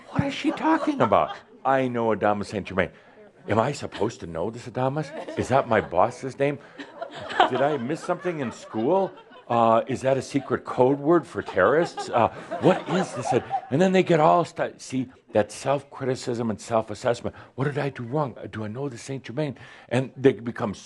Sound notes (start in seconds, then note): 12.6 audience laughter